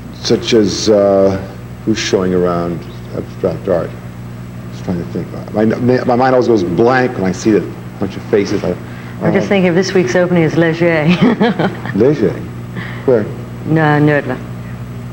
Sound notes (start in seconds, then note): 10.8 laughs